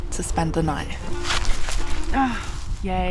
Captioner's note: slip